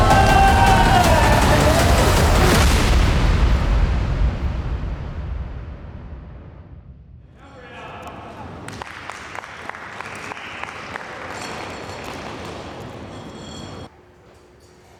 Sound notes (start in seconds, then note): 0.0 dramatic music; 7.7 crowd applauding